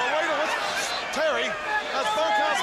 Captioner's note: crowd chatter